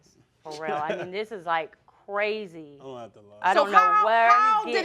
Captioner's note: laughing